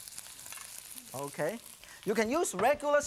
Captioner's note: shrimp hisses